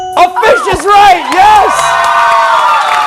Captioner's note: cheers and applause